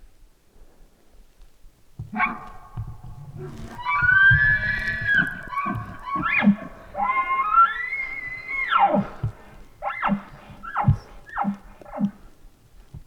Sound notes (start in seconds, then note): 2.0 bull bark bugling; 6.0 caller bark bugling